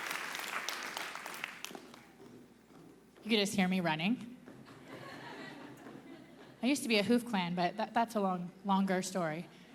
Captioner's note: applause